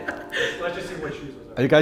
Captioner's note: laughs